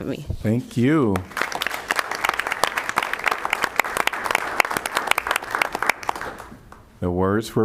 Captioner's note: applause